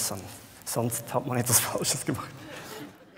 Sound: laughs

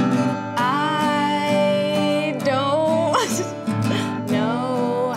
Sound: laughs

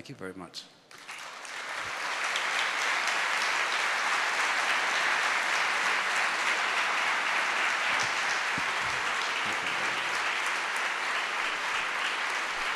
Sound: applause

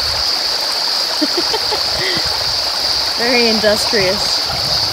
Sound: chuckles

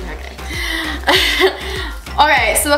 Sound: laughs

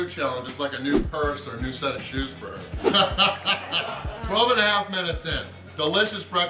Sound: haha

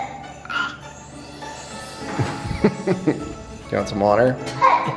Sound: laughter

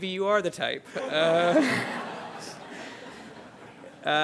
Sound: laughter

